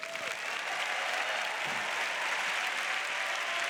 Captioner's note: applause; cheers